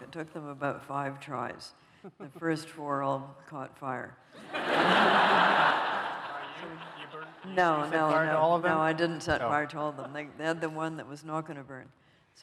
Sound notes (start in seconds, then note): 4.3 laughter